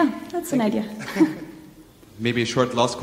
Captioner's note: both laughing